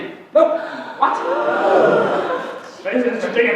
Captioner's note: gasps